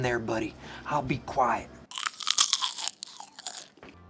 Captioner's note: continues crunching popcorn